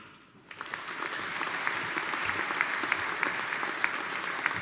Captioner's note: audience applauding